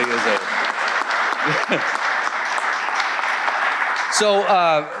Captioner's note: audience applauding